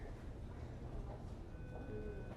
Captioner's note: machine beeping; voice over radio